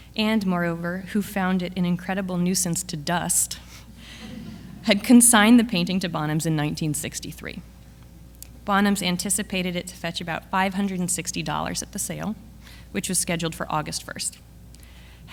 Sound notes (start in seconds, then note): 4.0 audience laughs